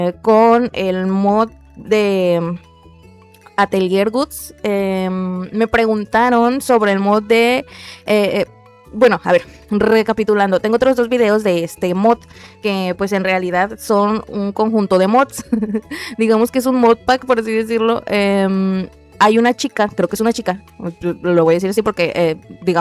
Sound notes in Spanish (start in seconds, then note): 15.4 risas